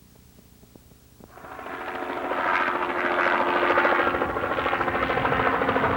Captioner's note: helicopter sounds